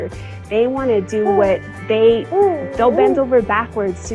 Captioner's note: baby babbling